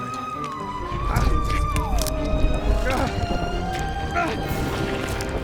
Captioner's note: walter groaning